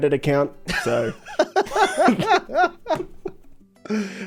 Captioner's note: both laugh